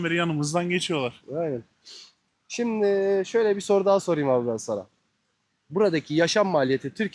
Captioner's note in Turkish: homurdanır